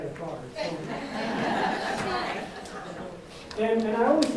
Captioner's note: audience laughs